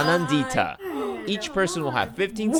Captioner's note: gasps